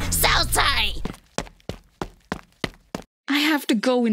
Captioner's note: running sounds